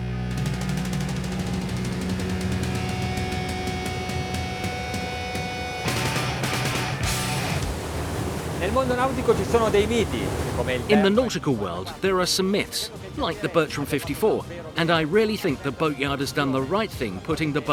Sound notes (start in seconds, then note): 0.0 lively metal music; 8.9 speaking in foreign language